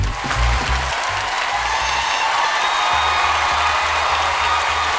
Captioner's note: upbeat music continues; audience applauding